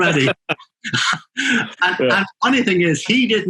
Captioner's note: both laughing